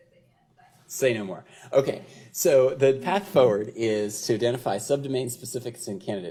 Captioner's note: off microphone